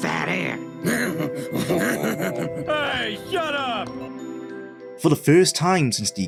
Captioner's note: laughing